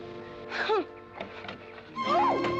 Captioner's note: scoffs